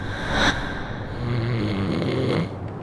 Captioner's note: snoring